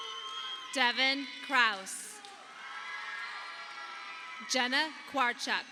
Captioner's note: audience applauding